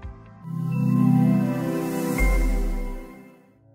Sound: logo chiming

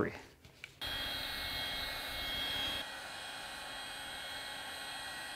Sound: heat gun buzzing

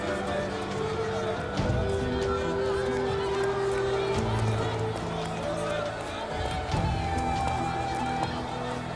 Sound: Kalabalık bağrışma sesleri

